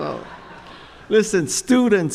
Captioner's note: chuckles